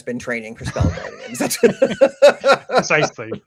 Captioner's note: laughing